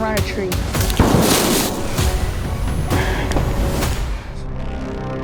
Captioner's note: gun bangs; suspenseful music